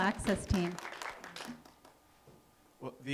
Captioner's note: applause